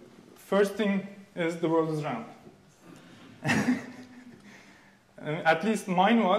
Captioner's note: laughing